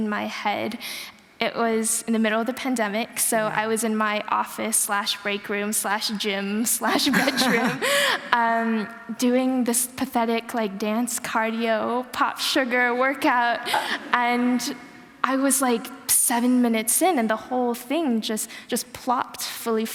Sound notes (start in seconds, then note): 7.0 laughter